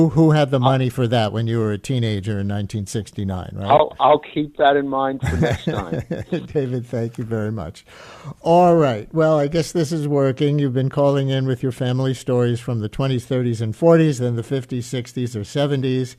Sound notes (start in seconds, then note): 5.2 laughs